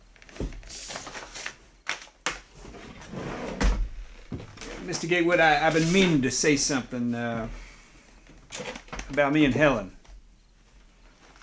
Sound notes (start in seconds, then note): none